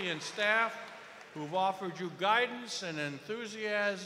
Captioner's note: cheers and applause